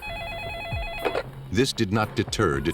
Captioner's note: phone ringing